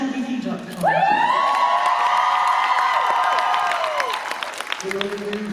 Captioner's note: applause